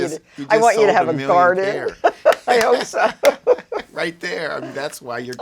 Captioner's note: laughs